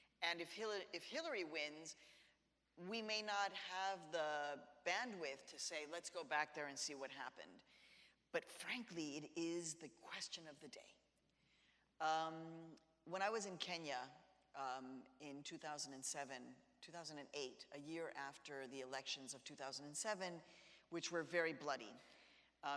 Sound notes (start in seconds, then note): none